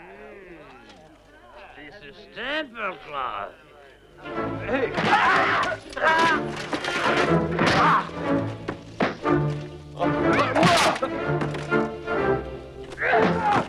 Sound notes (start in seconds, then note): 4.5 dramatic music; 5.1 Hundra yells; 7.9 all grunting